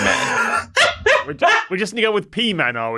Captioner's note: laughs uproariously